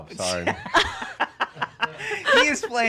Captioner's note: laugh